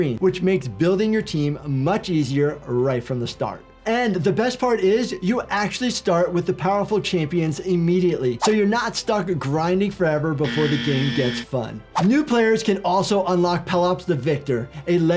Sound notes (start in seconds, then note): 10.4 buzzer buzzing